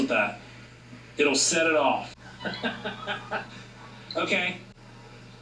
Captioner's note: laughs